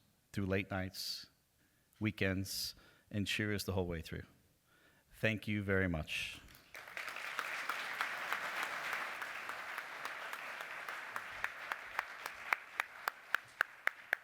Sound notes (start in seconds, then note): 6.4 applause